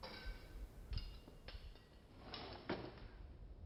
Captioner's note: clanking